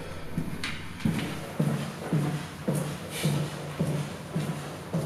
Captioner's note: feet tapping